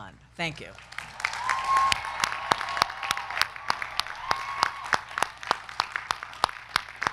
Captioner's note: crowd clapping; crowd cheering